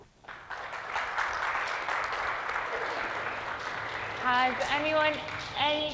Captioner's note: audience applauding